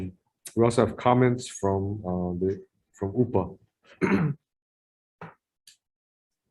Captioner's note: clears throat